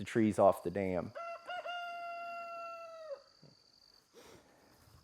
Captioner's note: chicken crowing